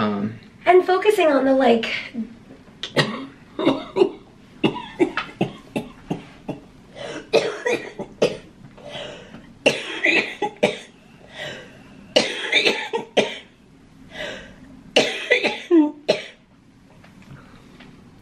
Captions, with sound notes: And focusing on the like... (coughing)